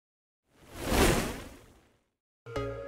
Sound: logo whooshing; gentle upbeat music

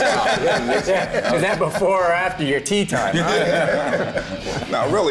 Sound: laughter

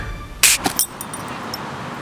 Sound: music stops; snap

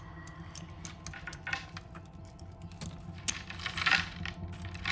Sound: lock clicking

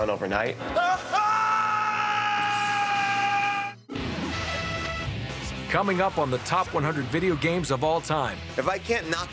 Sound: screaming

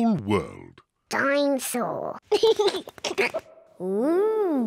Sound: giggles

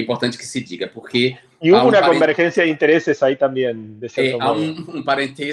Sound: spanish

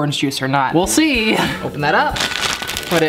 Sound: laughs

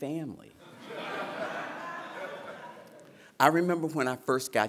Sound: laughter

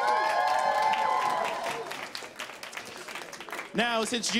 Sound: applause

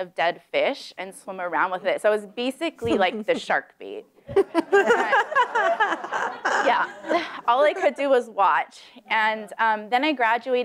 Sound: laughter

